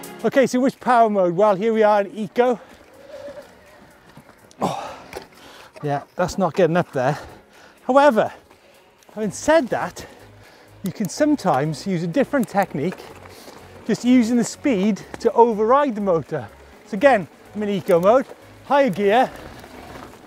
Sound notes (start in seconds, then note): 2.9 groans